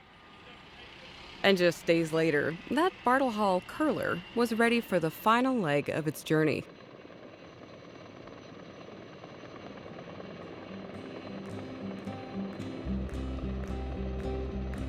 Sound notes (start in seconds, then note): 8.0 helicopter rotors whirring; 10.5 peaceful music